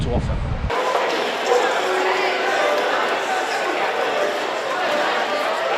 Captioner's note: lots of people talking